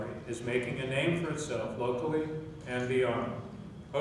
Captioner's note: none